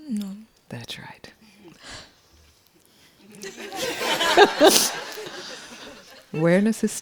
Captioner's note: laughter